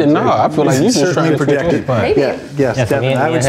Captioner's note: guests chatter